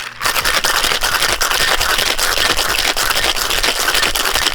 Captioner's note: ice clanking